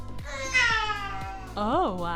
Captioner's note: baby yells